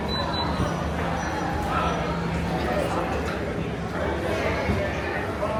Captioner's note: guests chattering indistinctly